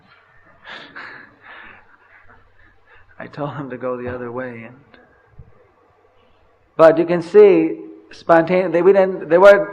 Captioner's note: laughs